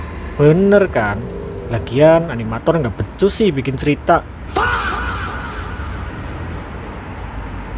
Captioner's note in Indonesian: berteriak